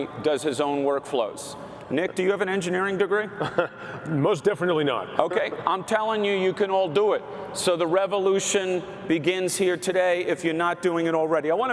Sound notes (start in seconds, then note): 3.2 chuckles